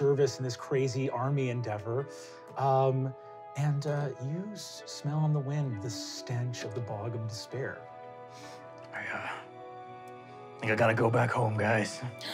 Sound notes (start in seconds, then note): none